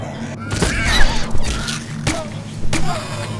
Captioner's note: gunfire